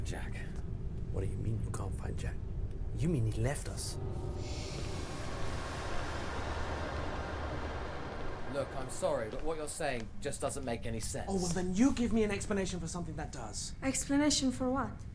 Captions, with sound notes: Well I, appreciate the offer, but, you know, you know maybe I should think this over before I... (Alien transmission) This Candidate continues to resist. It is unprecedented.